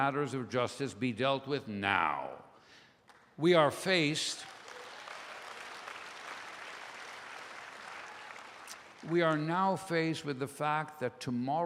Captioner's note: applause